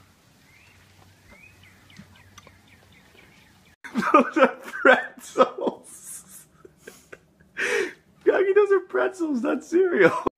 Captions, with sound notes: (background bird chirping) (through laughter) Those are pretzels...! Granny, those are pretzels, not cereal!